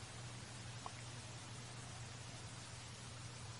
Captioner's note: water falling